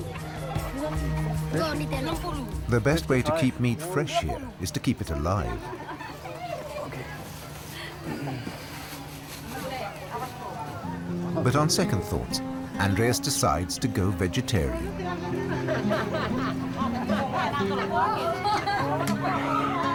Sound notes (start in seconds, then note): 7.9 merchant chuckles; 15.4 locals chatting, laughing